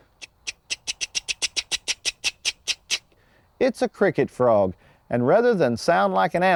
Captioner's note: wildlife call